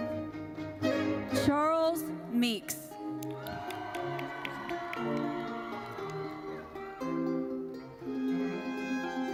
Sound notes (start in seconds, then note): 3.2 audience cheers